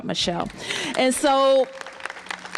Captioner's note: applause